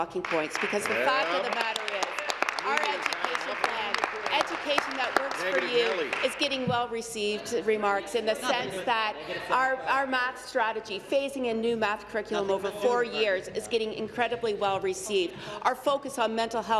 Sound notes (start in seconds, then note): 6.2 applause